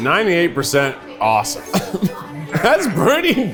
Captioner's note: laughs